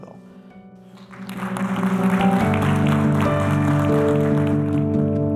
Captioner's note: applause